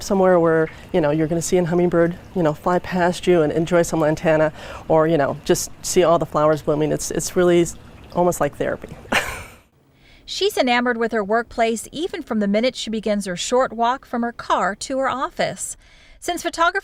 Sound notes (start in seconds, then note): 9.1 laughs